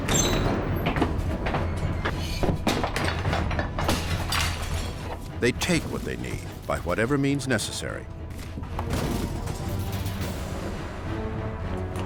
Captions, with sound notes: They take what they need by whatever means necessary. [dramatic music] [items clattering]